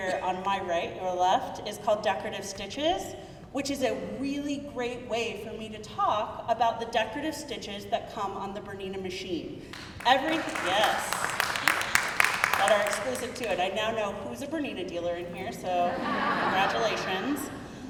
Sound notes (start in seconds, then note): 9.7 crowd clapping; 15.8 crowd laughing